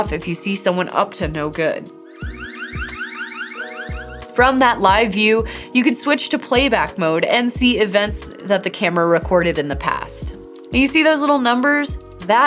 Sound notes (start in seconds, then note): 2.0 alarm sounding